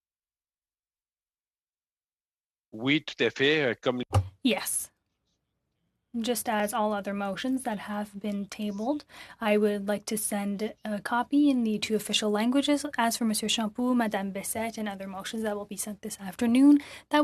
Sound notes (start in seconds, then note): 6.4 speaking French